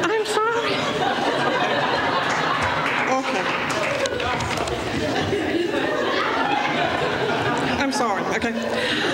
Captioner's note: laughter